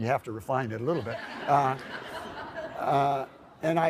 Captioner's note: laughter